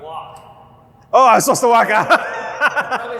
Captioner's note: laughs